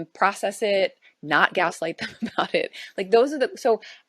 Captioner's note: chuckles